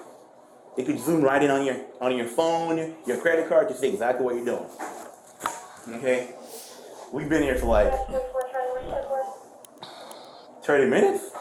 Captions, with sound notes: It could zoom right in on your, on your phone, your credit card to see exactly what you're doing Okay? We've been here for like... (Radio chatter) 30 minutes?